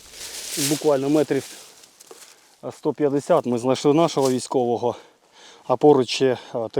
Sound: Ukrainian

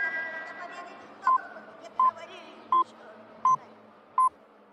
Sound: buzzer

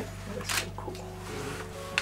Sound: camera flash

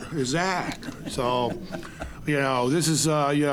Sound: audience laughing

